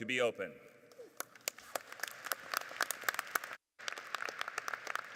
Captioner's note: audience applauding